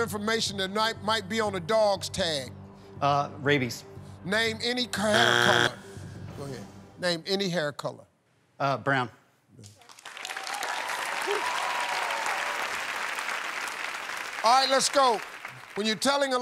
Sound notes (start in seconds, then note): 5.0 buzzer; 9.8 cheers and applause